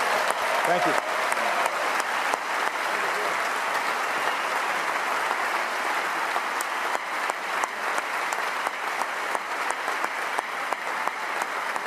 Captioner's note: cheers & applause